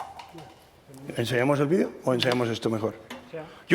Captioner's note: speaking spanish